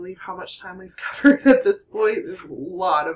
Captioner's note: laughter